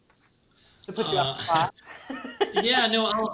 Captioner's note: laughs